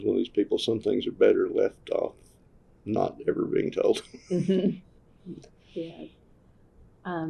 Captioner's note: laughs